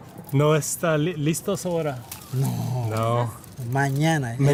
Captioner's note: speaking in foreign language; man speaking in foreign language